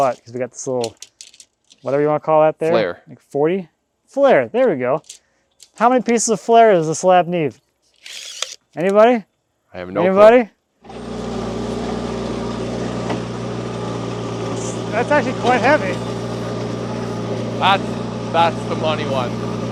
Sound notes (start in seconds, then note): 10.8 engine rumbling